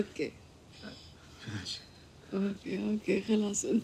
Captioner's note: speaking in foreign language